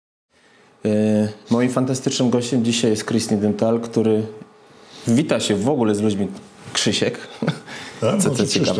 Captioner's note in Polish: śmiech